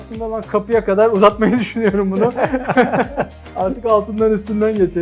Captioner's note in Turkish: kahkaha